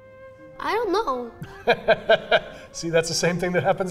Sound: laughs

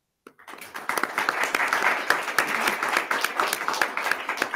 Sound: attendees clapping

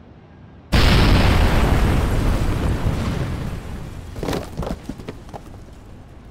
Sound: explosion bangs; wood clatters

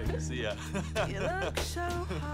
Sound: laughing

